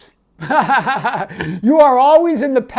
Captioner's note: laughing